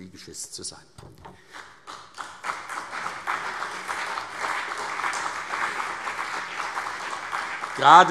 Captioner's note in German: Beifall CDU und BÜNDNIS 90/DIE GRÜNEN